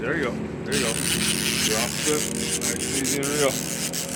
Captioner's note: reel cranking